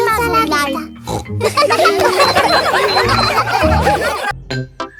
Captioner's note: snorts; kids laughing